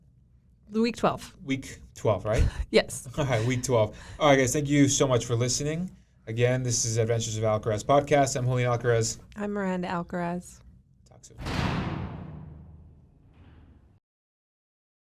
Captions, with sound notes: The week 12. - Week 12, right. - Yes (giggles). - Alright, week 12. Alright guys, thank you so much for listening. Again this is, Adventures of Alcaraz Podcast. - I'm Julian Alcaraz. - I'm Miranda Alcaraz. - Talk soon. (dynamic music)